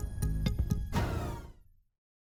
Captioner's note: phaser sound